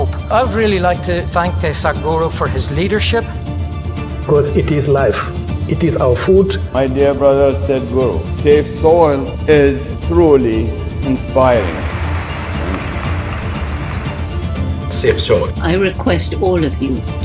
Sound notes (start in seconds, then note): 11.4 applause